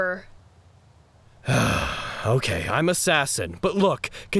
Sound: sighs

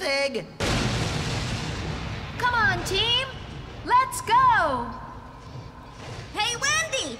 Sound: thunderclap!

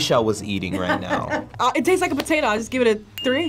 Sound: cackling; bell dinging

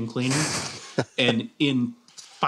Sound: laughs

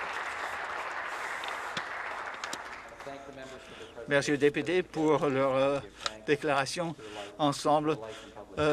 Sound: applause

